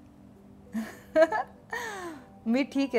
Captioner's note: Chuckles